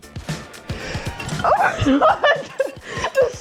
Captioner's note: laughing